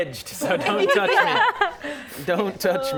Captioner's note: laughter